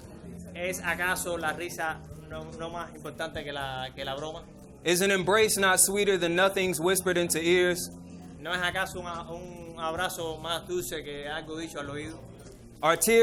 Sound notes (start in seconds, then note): 0.6 speaking in foreign language; 8.6 interpreter speaking in foreign language